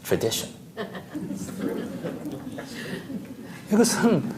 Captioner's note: audience Laughter